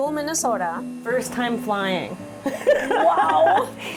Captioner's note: laughs